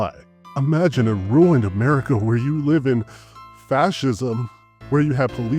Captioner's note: gasps